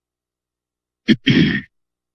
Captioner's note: clears throat